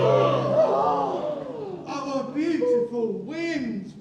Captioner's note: exclamations